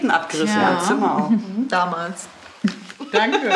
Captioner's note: laughs